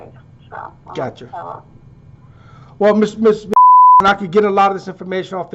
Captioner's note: beep